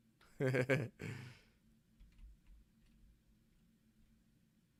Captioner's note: laughing